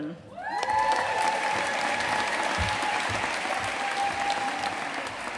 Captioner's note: audience cheering and applauding